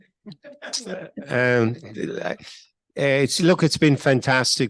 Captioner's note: laughs